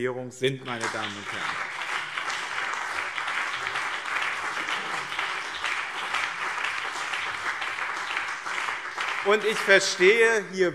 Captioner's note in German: Beifall